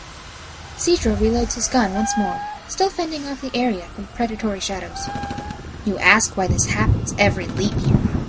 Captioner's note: bothered tone; thunder crackles again